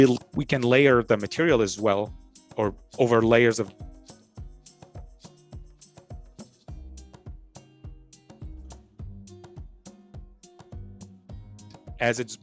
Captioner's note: audio cut out